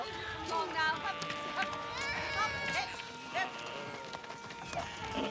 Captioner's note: baby cries